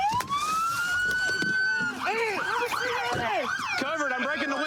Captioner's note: shouting